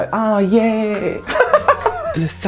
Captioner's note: laughs